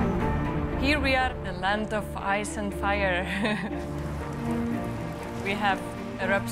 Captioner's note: laughs